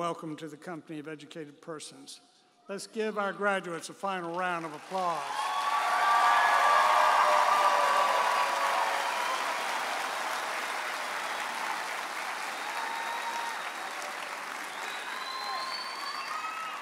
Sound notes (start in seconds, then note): 5.5 audience applauding and cheering